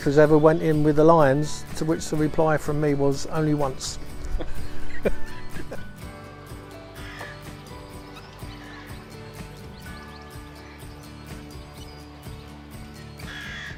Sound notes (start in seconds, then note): 4.2 laughter